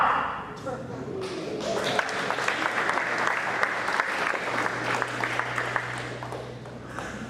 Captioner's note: applause